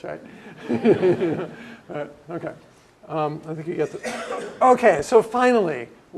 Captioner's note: laugh